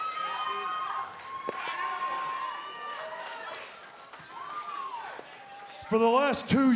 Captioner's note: cheers & applause